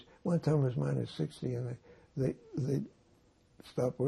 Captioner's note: none